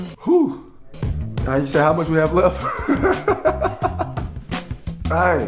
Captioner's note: sighs; laughs